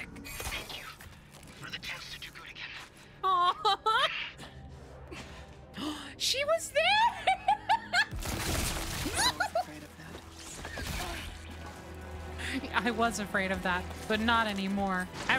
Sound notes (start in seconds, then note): 5.7 gasp; 10.0 fearful Noises